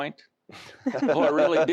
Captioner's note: laughter